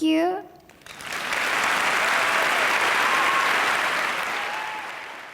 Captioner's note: audience applause